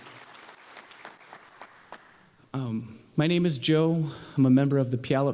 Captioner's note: applause